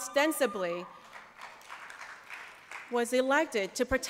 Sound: applause

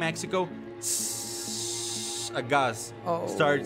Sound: gas hissing

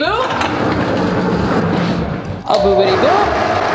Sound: wheels grind

